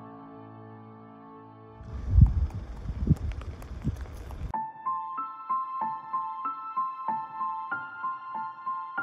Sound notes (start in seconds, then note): 1.9 air whooshing